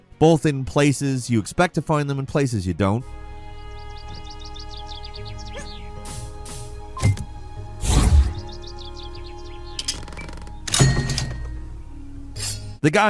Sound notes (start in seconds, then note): 3.0 birds chirping; 3.9 intense ambient music; 7.8 loud swoosh; 10.7 cash register dings